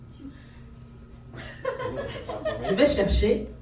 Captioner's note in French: rires